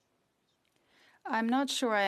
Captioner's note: speaking French